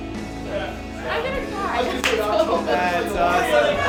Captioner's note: laughs